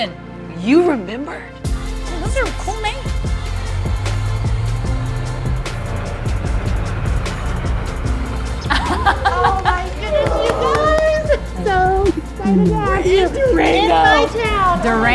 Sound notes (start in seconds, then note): 3.8 tires rolling; 3.8 wind blowing